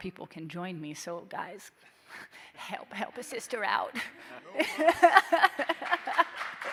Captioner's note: laughs; audience applauding